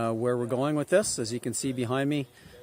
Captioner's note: indistinct background chatter